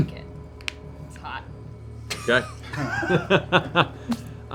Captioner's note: laughter